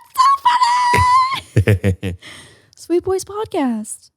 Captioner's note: laughs